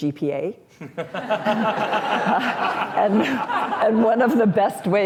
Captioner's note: laughter